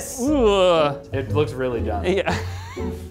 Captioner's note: laughs